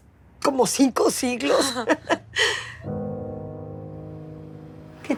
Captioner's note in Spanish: Risas